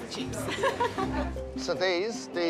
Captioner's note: laughs